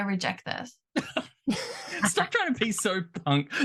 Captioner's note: laughter